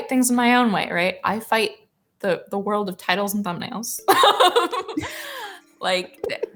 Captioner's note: laughs